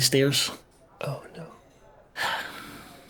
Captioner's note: whisper; sighs